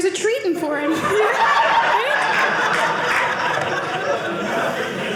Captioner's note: audience laughing